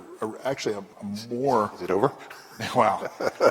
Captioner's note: laughter